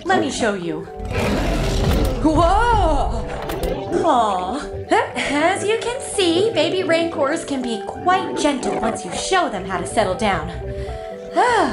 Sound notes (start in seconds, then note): 0.9 roar